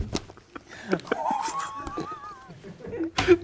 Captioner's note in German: Leises Lachen